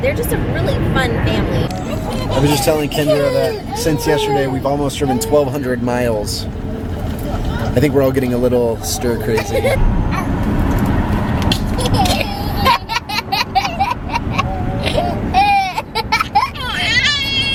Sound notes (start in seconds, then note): 11.5 laughing